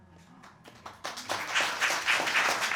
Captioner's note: audience applauding